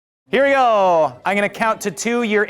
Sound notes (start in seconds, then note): 0.4 man exclaims